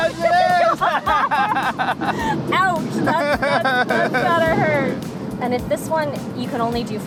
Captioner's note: laughs